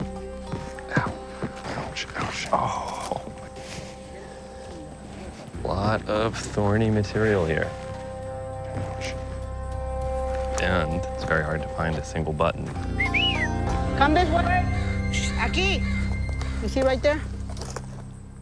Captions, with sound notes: Ow. Ouch, ouch, ohh. Lot of thorny material here. Ouch. And it's very hard to find a single button. [ Whistles ] Come this way. Aqui! You see right there?